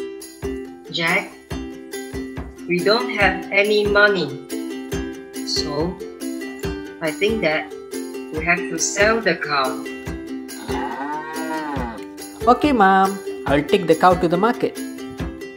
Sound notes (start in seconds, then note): 10.5 cow moo